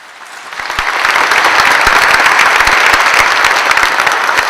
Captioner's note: applause